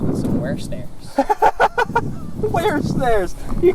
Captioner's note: laughs